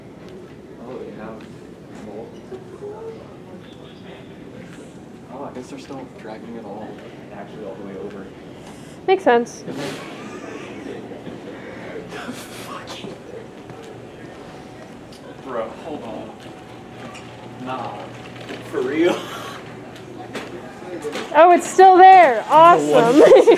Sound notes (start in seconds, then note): 10.0 bursts out laughing